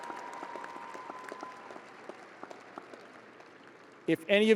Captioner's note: audience applauding